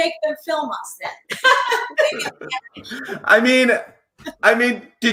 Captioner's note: all laugh